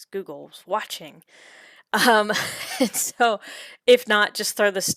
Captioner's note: chuckles